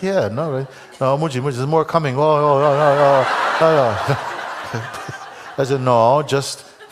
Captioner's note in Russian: Громкий смех в зале